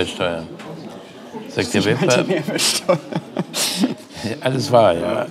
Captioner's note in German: lachend